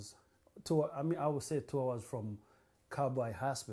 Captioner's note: non-english